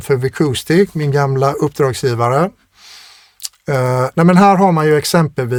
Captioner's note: scoffs